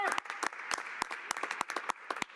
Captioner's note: applause